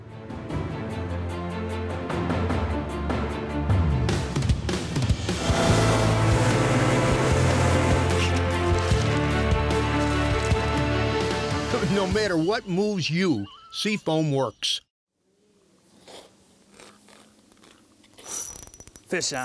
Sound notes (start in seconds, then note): 0.2 exciting orchestra music; 12.1 voiceover; 18.1 fishing reel spinning